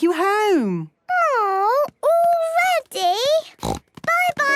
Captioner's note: snort